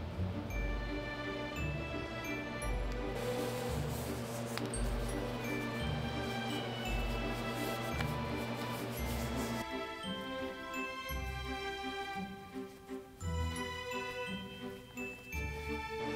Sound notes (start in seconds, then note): 3.1 hands slide against dough